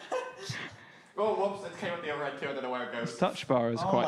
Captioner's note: laughing